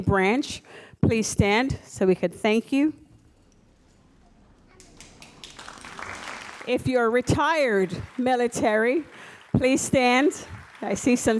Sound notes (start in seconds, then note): 4.0 audience applauds